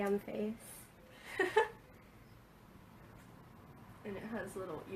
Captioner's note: laughs